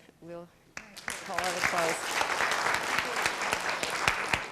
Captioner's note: applause